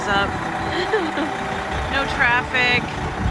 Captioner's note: laugh